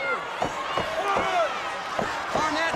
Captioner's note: crowd cheering